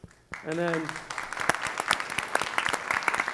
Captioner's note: applause